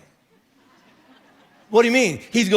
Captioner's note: congregation laughing